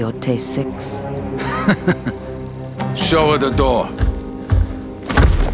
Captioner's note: laughing